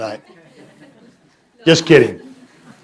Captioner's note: laughter